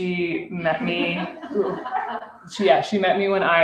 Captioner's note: laughter